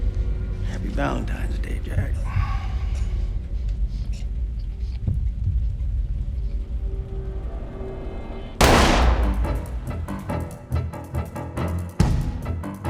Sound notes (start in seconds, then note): 8.6 gun firing; 9.2 dramatic orchestra music